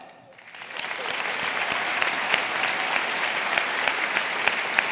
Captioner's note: audience applauding